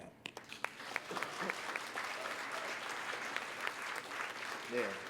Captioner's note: applause